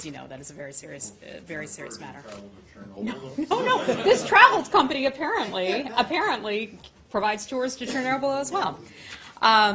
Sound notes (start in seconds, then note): 3.1 laughter